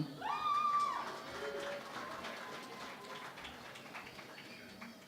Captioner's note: cheering and Applause